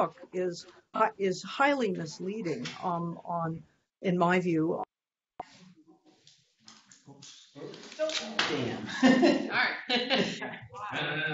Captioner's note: laughter